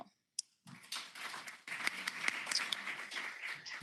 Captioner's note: applause